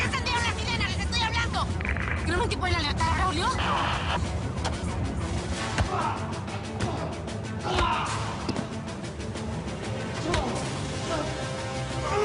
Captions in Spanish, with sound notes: !¿POR QUE ENCENDIERON LAS SIRENAS? LES ESTOY HABLANDO! ¿QUIEREN ALERTAR A BRAULIO? [Voz en el radio] - NO. - !IMBECILES! [Golpes] [Gritos]